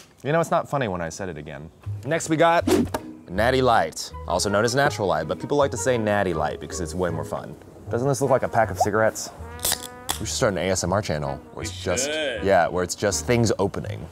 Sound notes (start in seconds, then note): 2.6 whoosh; 9.6 can opening